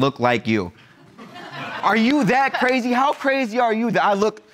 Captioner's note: audience laugh